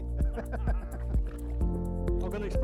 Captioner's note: laughing